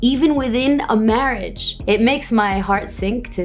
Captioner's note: speaking in Arabic